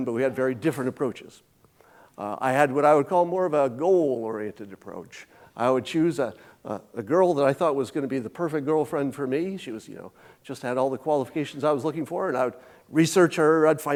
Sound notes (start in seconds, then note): none